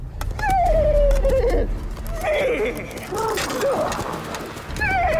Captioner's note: whinnying